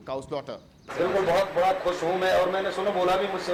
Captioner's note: speaking hindi